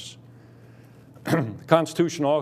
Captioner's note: clears throat